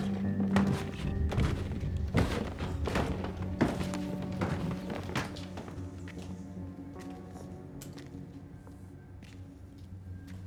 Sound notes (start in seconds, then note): 0.0 footsteps thumping; 6.8 intense music continues